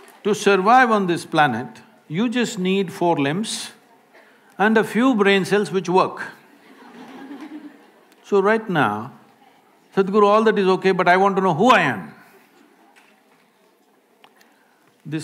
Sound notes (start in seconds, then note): 6.4 few laugh